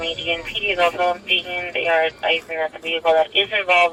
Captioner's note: radio chatter